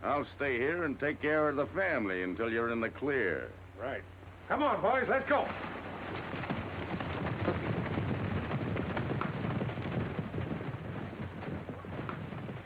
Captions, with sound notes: I'll stay here and take care of the family until you're in the clear. - Right. - Come on, boys, let's go. (horses galloping)